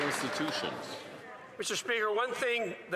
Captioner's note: some Applause